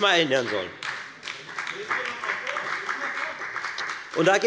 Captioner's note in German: Beifall bei der FDP und bei Abgeordneten der SPD